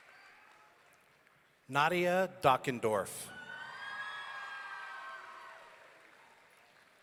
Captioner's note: audience cheering